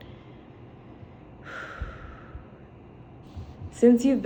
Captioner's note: breathe